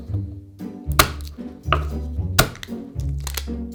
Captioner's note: knife smashing